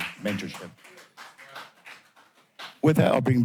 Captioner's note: applause